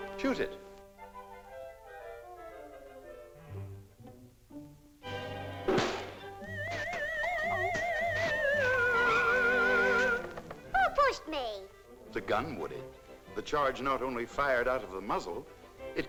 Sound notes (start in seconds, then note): 5.7 shot pops; 6.4 cartoonish whistling sound